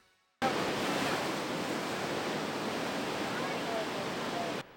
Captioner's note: SOT rushing waters